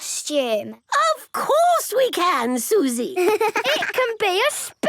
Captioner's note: giggling